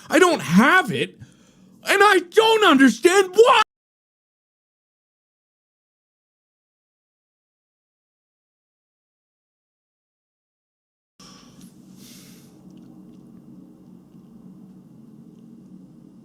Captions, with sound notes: I don't have it. And I don't understand WHY- *deeep sigh*